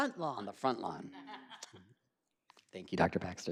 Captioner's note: laughing